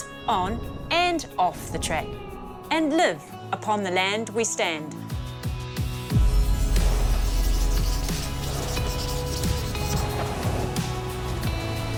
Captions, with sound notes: on and off the track, and live upon the land we stand. -(UPBEAT MUSIC) -(PEN SCRATCHES)